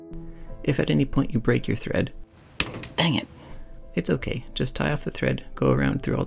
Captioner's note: snapping sound